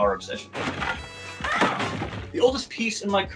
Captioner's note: shelves falling